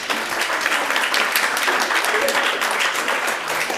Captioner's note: audience applauds